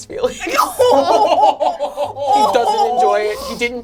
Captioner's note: all laugh